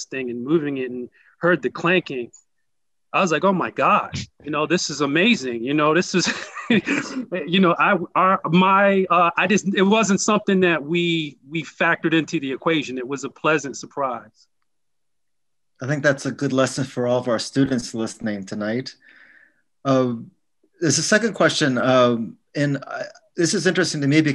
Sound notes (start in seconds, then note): 6.1 laughs